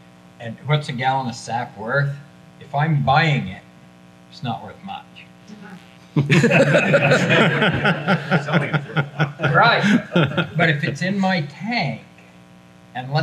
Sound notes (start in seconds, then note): 6.1 everyone laughs